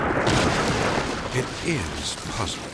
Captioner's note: silo thuds